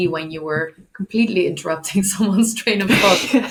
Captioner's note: laughs